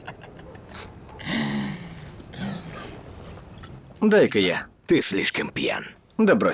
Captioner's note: laughing